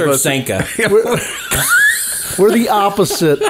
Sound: all laughing

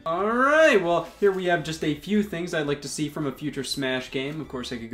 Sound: none

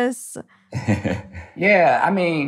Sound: chuckles

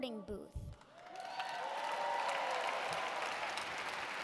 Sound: cheers

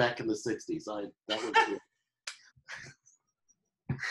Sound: laughing

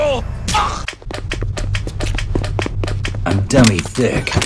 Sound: ass cheeks clapping

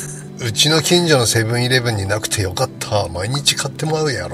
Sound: laughs

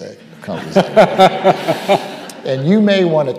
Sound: audience laughing

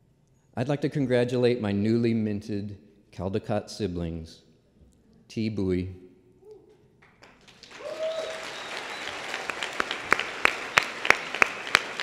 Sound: applause

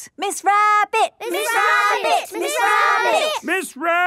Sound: all chanting

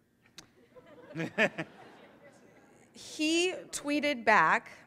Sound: audience laughs

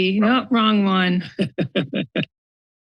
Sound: laughter

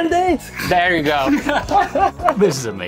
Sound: laughter

